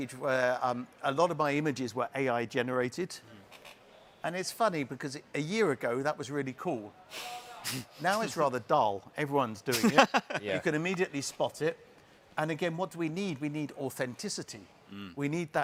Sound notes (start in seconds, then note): 9.7 chuckles